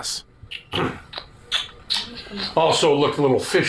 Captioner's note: tsk sounds